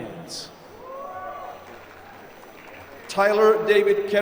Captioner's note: applause